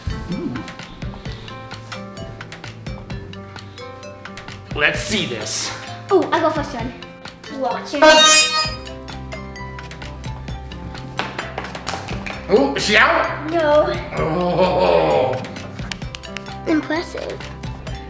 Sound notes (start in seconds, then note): 11.2 claps